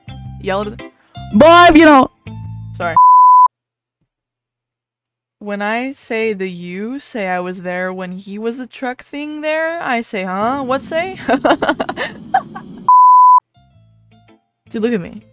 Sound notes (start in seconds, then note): 10.7 laughing